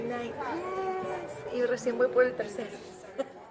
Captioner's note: laughs